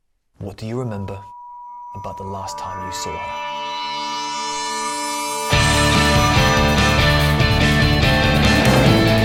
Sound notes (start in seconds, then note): 3.7 high-pitched tone ringing; 5.8 dramatic rock music